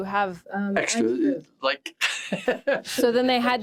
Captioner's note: laughs